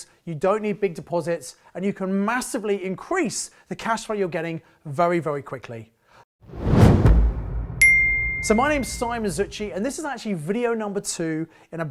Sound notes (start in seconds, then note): 6.4 air whooshing; 7.7 soft ping